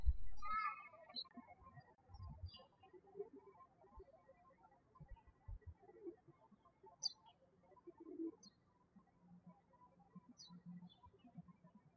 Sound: birds chirping

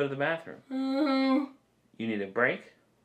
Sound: moaning

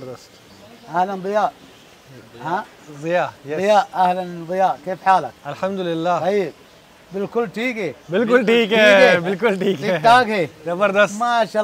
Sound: talking in Arabic

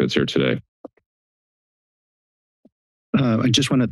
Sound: silence

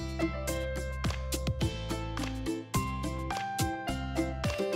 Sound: rhythmic clapping

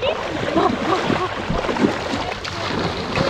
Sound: splashing; didgeridoo humming

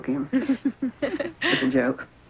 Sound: kids laughing

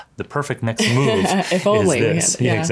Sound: laughs

